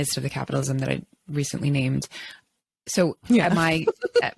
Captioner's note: laughs